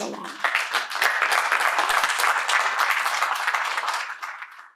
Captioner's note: applause